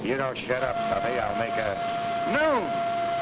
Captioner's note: lunch whistle blows